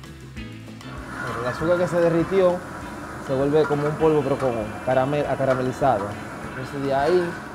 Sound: roaster whirls; speaks Spanish

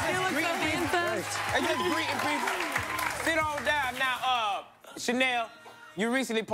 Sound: cheers and applause

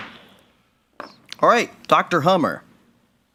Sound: gavel thumping

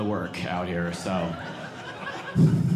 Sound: audience laughing

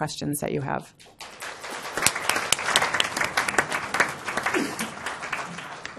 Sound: applause

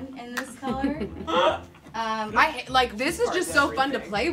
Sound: laughs

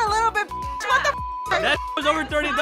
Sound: beep

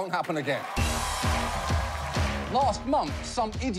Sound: applause

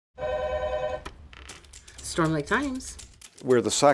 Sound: phone ringing

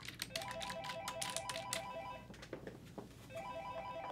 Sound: phone ringing

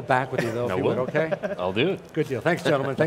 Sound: all laugh

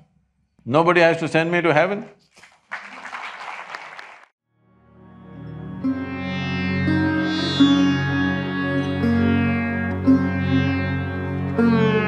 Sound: applause

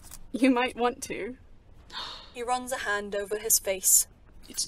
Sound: James sighs

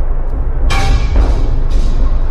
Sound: clank

